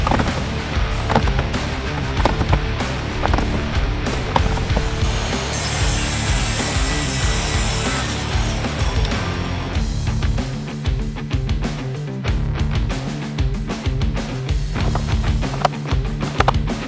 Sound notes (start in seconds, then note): 0.0 panels clunk; 5.7 saw whines